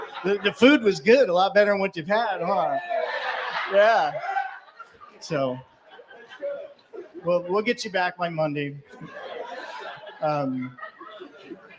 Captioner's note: laughter